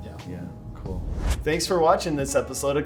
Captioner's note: air woosh